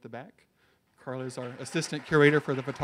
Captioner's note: audience cheers